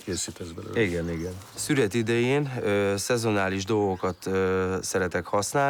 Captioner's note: speaking in foreign language